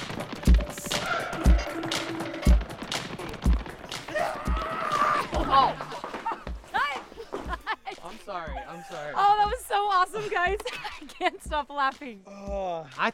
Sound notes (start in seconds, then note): 4.1 scream